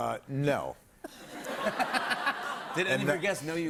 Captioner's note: laughter